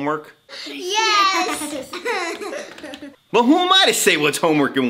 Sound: laughing

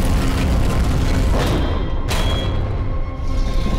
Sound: thudding

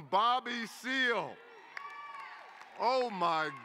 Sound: cheering

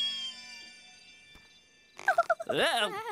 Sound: giggling

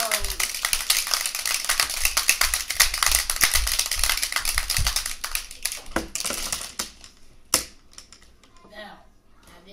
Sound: clapping sounds

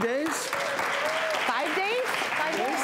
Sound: audience applause

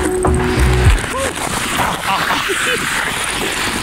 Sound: men power sound

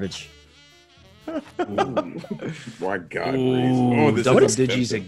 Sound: laugh

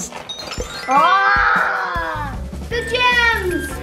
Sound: tinkling chimes; everyone cheers

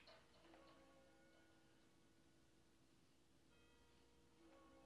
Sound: clock chiming nearby

